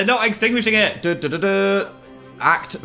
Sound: Dan imitates fanfare

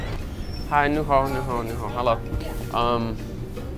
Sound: speaking foreign language

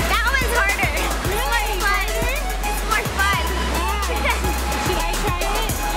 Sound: chuckles

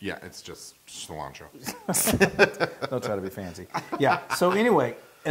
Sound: laugh

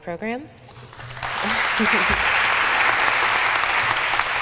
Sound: applause

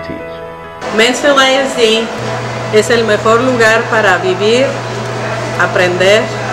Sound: speaking in Spanish

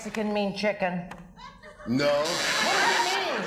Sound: buzzer sounds

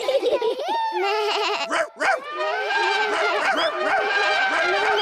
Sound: all giggle; all shout and make noises

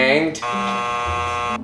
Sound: buzzer buzzing

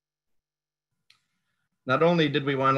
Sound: clicking

